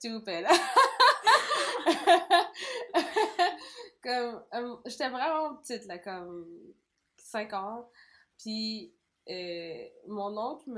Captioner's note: laugh